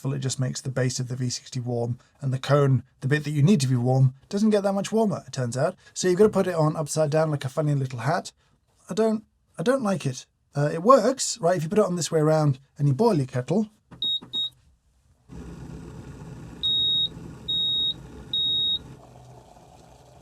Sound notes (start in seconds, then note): 14.1 beeping